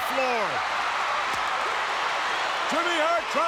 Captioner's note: crowd roars